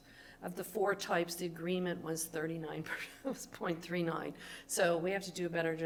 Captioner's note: laughs